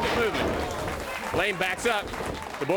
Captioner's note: crowd cheering